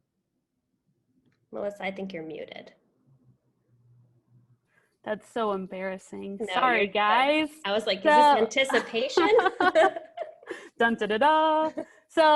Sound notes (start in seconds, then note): 8.6 laughing